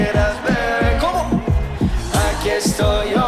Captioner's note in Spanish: en inglés